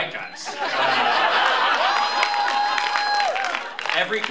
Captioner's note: laughter, cheering